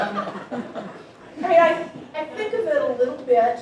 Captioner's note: audience laughing